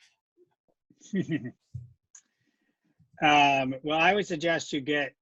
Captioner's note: chuckling